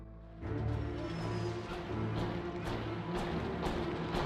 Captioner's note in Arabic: موسيقى متوترة; أقدام تسير